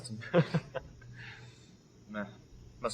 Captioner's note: laughing